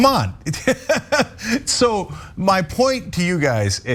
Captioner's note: laugh